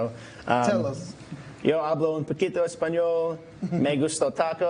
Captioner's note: Spanish